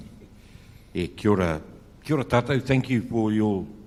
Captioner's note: speaks in foreign language